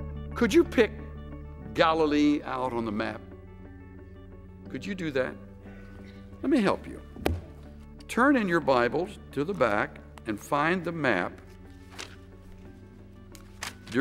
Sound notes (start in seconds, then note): 7.2 taps pulpit